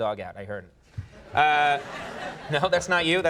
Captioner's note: audience laughing